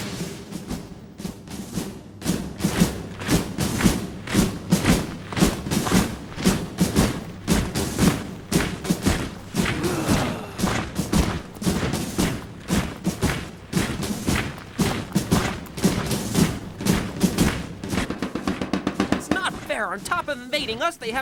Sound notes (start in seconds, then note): 0.1 militant music; 3.3 footsteps thudding